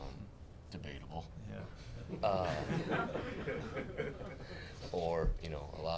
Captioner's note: all laughing loudly